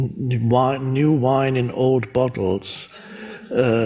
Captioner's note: none